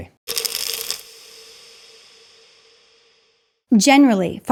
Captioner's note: pills rattling